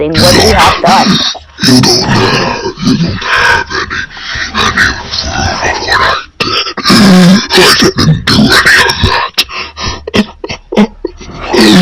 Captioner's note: sobs